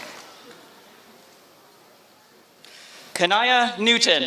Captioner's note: applause